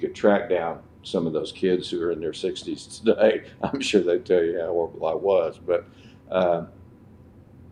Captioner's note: laughs